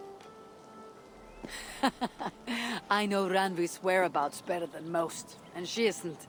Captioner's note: laughs